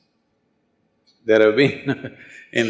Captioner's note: laughs